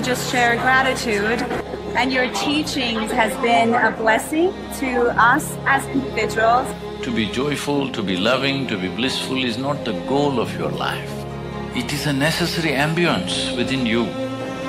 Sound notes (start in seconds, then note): 0.9 few laugh